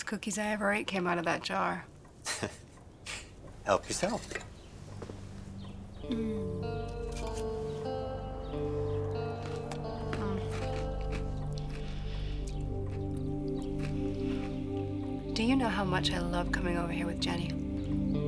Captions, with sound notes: Best cookies I ever ate came out of that jar. - (laughs) Help yourself. - Mm. (somber music) Mm. Do you know how much I loved coming over here with Jenny?